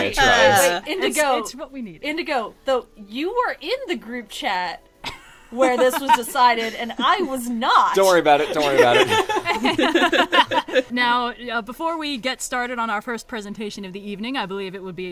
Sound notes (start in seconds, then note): 5.1 laughs